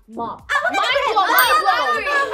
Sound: speaking Korean

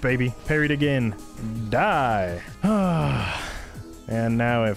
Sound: exasperated sigh

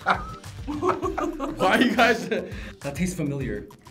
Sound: laughing

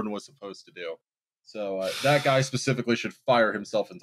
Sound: audibly breathes out

